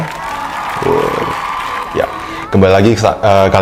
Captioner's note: artificial applause